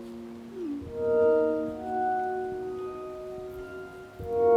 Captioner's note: phone chimes